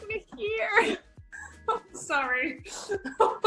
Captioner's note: laughs